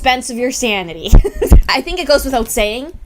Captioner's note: laughs